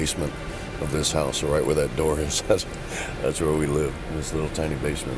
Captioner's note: laugh